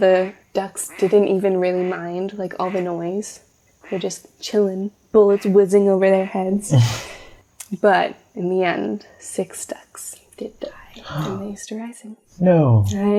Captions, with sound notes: the ducks didn’t even really mind, like, all the noise. There were just chilling, bullets whizzing over their heads! [Laugh] But in the end, six ducks did die during the Easter Rising. No!